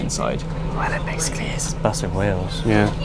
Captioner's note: whispered